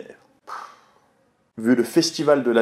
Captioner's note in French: soupir